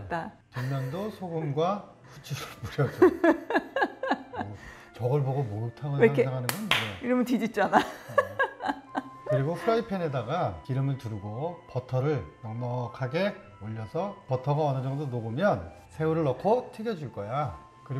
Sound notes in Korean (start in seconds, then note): 6.4 짝짝!